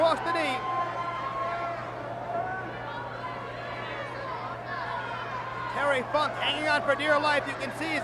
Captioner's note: applause